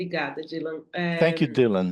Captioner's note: speaks in Portuguese